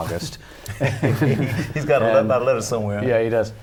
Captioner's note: laughter